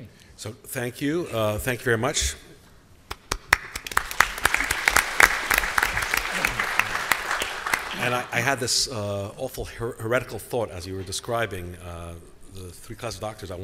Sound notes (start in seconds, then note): 3.2 applause